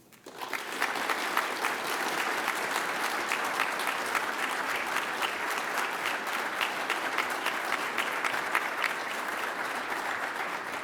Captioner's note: applause